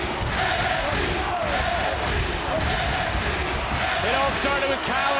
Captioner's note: crowd chants